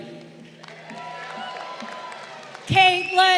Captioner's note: crowd cheering